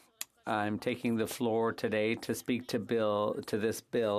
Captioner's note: speaking French